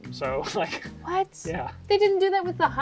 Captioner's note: laughs